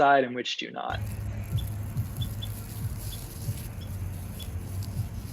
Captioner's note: ambient noise, seed pods rustling